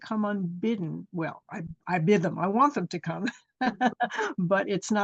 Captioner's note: chuckles